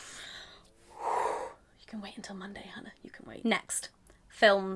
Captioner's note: deep breath